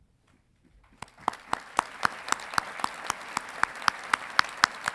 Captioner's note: audience clapping